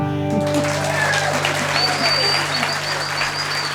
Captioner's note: applause